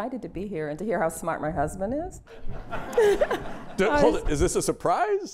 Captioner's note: laughter